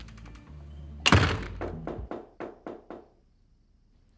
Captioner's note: knocking on door